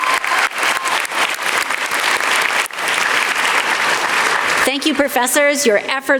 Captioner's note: applause